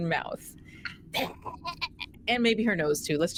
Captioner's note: gagging noises